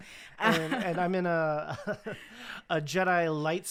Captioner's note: laughs